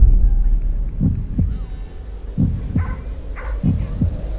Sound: heart beating

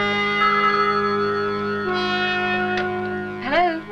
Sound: phone rings

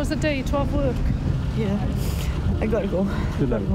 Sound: sniffles

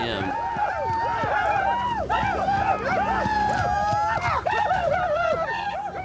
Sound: crows yelling

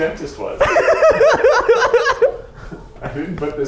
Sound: giggles

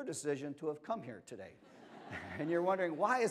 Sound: laughter

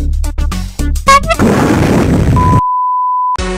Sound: ka-boom!

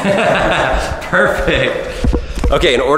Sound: laughter

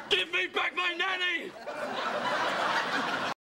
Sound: laughter

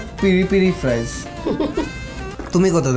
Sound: nervous laughter

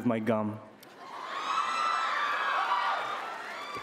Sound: cheering

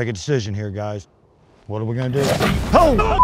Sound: snarling

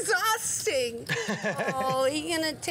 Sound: laughing

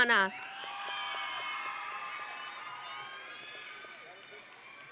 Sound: audience and graduates cheering

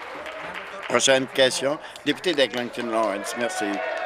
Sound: applause

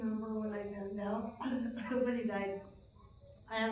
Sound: coughing

